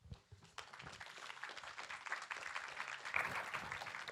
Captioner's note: applause